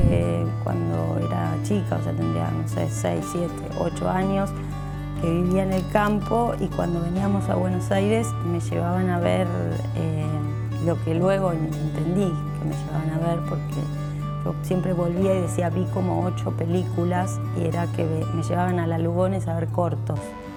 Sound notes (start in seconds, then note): 0.1 whoosh; 6.1 creak